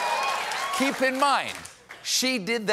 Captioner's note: cheers and applause